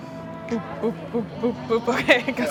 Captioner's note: laughs